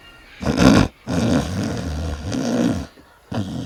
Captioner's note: woman snores